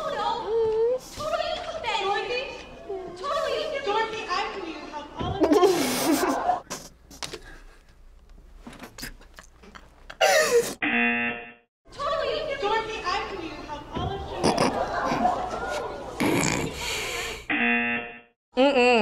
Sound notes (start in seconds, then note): 5.3 laughs; 10.8 buzzer rings; 14.5 snorts; 17.5 buzzer rings